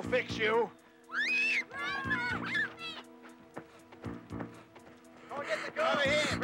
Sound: yelling

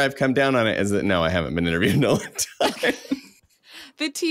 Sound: laughs

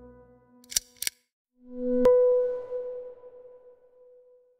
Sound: lamp clicks

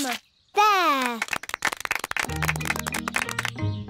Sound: applause

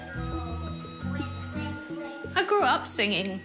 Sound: chatters

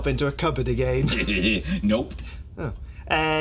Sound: laughing

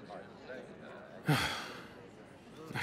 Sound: crowd murmuring; sighs

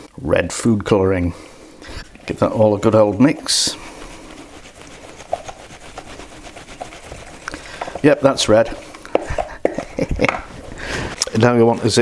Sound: laughs

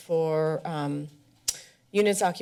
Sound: smacks lips

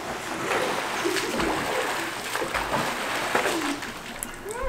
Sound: splashing

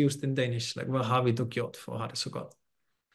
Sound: speaks danish

